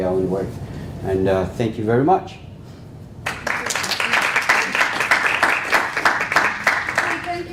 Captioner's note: applause